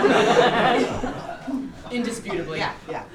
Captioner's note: audience laughs